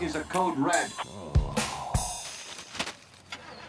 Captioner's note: sighs